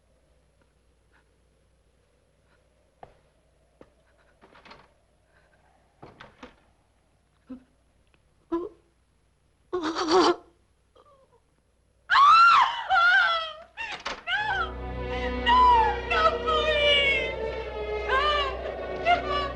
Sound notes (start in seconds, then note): 7.7 Virginia sobbing; 12.4 woman wailing; 18.1 sobbing